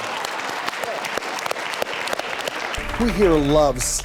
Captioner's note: audience applauding